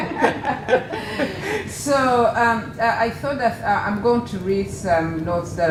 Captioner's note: laugh